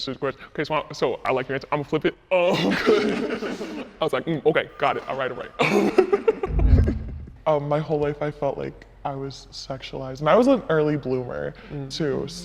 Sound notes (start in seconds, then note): 2.5 people laughing; 5.3 people laughing; 6.4 audio whooshing